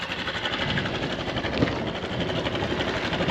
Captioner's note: motorbike idling